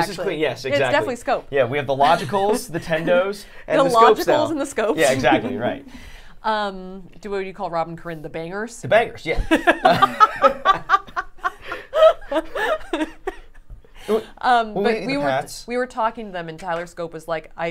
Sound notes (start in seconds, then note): 5.2 chuckling; 9.6 laughing